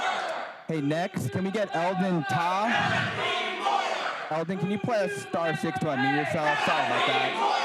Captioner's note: crowd chanting